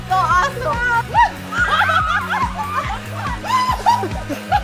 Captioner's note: upbeat music; screams